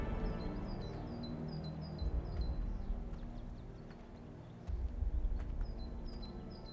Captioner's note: birds chirping; gentle tense music